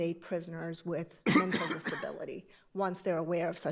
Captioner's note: attendee coughing